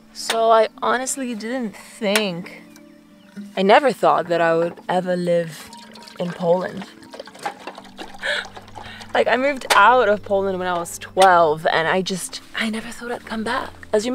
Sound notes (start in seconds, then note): 6.7 water sloshing; 7.8 chuckles